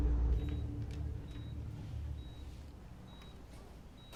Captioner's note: monitor beeping